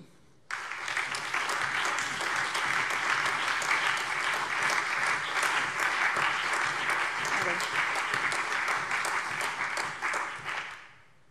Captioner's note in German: Allgemeiner Beifall